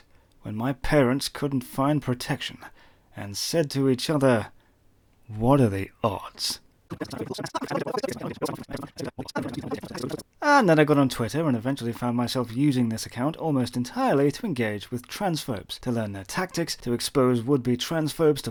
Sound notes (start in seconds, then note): 6.9 sound effects - Movie being skipped